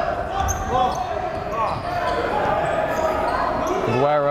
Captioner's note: yelling